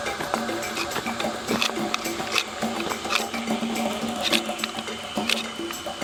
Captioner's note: stone scraping continues